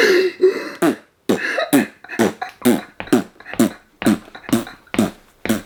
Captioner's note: blowing raspberries